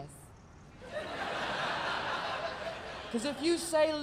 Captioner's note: audience laughing